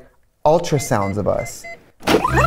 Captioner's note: fast talking; ultrasound machine beeping